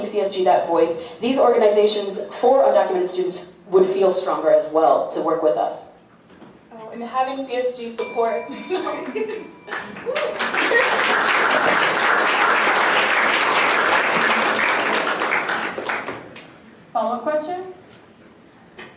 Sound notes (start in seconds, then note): 8.0 timer bell dings; 9.7 applause